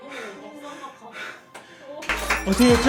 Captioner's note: panting